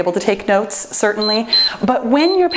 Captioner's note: timer beeps